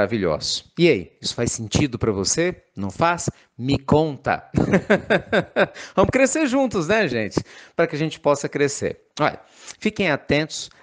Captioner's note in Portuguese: risos